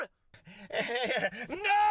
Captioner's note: laughs